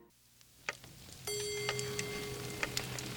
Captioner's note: clock strikes